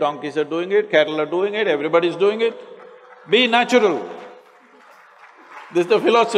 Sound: applause

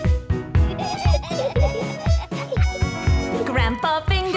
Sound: laughter

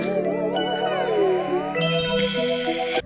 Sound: sighs; zzzzzzz

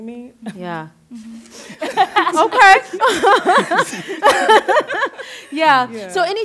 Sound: laughter

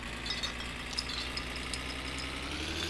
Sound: bottle cap clatters

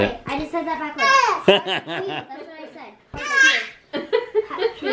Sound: laughter

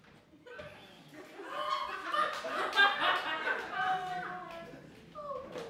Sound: laughter

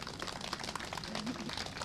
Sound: applause

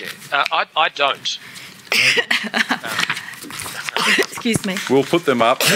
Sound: coughs

